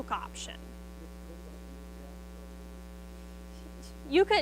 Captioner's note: student speaks faintly